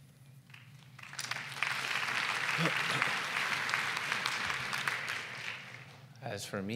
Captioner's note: applause